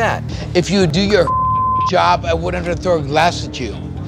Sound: beep

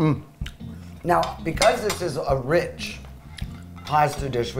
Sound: fork clanking

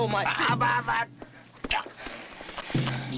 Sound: groans

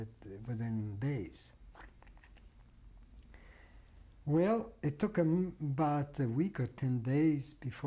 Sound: pauses for 3 seconds

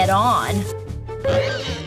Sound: screeching; banging

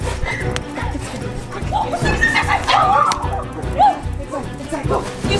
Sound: fearful rambling

